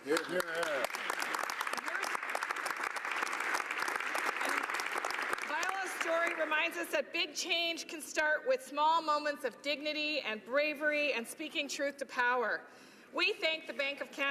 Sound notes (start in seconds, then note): 5.5 applause